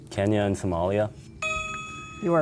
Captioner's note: ding